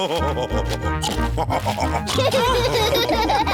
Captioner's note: laugh and snorts; all laughing